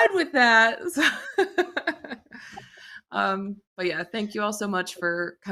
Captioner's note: laughs